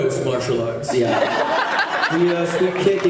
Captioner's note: laughs